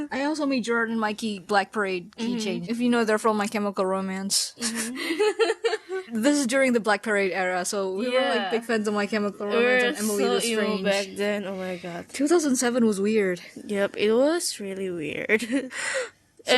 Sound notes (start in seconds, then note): 4.8 pffftgiggles